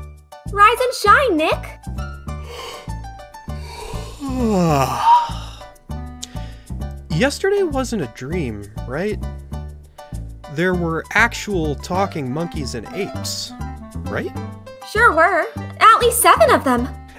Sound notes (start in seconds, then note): 3.5 yawns